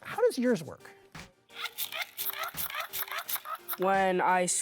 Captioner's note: machine scratching